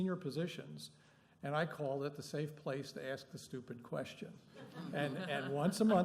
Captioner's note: laughter